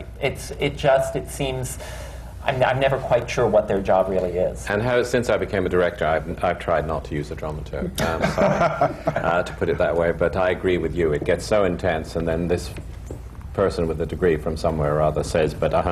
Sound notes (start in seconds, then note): 8.0 laughter